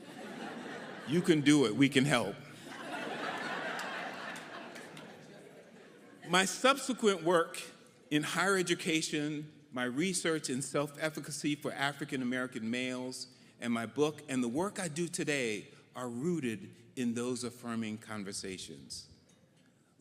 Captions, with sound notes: You can do it, we can help. (audience laughing) My subsequent work in higher education, my research and self-efficacy for African-American males, and my book and the work I do today are rooted in those affirming conversations.